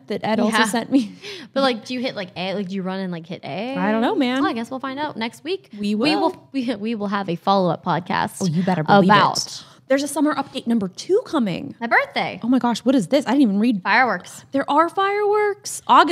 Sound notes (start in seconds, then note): 1.0 both laugh